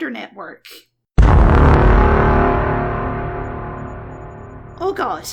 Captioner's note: Inception noise